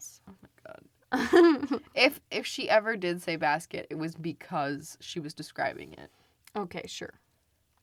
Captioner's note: laughs